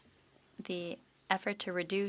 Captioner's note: speaking French